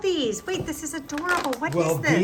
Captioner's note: paper crinkling